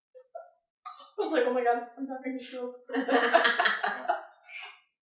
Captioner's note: laughter